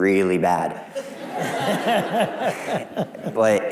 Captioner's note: laughing